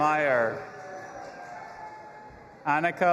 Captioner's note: audience applauding and cheering